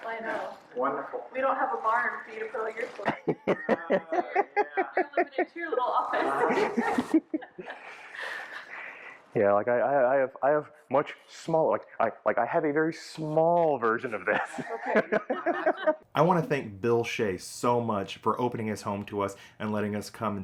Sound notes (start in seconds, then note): 0.1 laughing